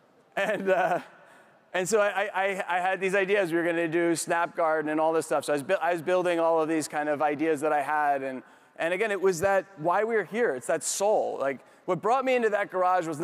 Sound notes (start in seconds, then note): 0.3 chuckles; 0.6 audience members laugh softly